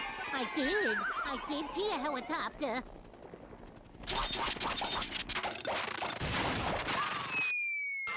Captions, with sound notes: I DID. I DID SEE A HELICOPTER. [engine sputtering]